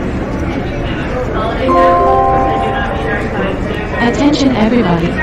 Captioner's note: intercom beeping